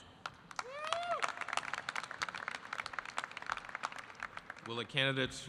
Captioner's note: audience applauding